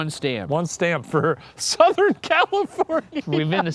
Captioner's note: laughing